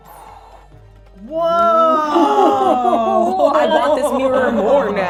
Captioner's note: gasping